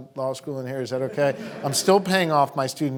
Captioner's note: audience laughing